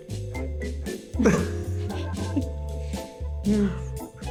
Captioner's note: both chuckles